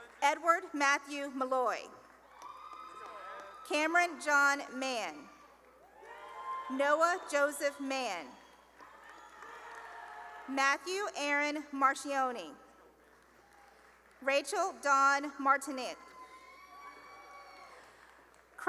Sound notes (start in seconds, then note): 2.1 cheering and applause; 5.2 cheering; 13.0 applause; 15.9 cheering